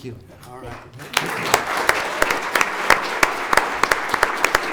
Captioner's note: audience applauds